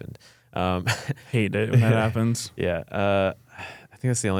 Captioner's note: laughs